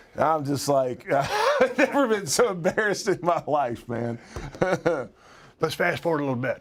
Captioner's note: laugh